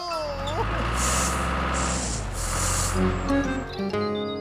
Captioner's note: engine Running